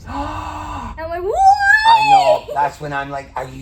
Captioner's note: gasps